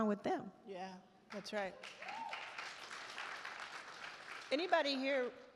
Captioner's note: attendees applaud